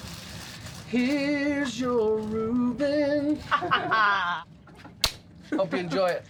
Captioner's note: laughter